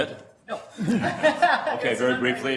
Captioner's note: laughs